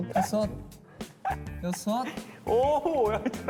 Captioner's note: laughing